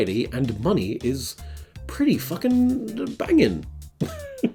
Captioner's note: laughs